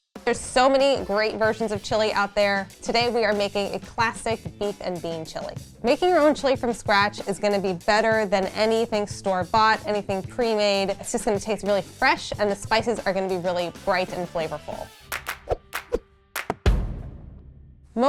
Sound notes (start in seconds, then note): 0.0 lively upbeat music; 15.0 upbeat clapping; 16.3 drum beating